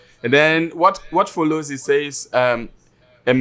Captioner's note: speaks in foreign